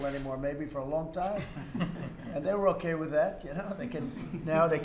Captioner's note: laughter